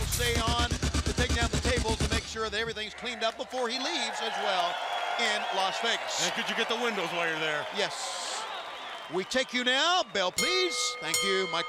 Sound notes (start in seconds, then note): 6.9 crowd cheering; 10.3 bell ringing